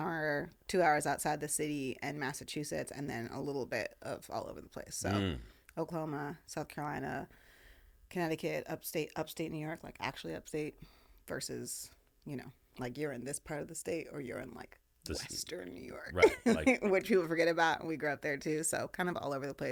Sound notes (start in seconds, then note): 16.1 laughing